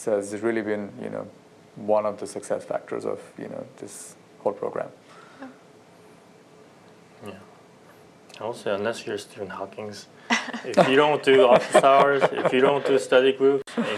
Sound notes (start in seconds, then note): 10.3 laughter